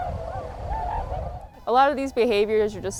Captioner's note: birds chirping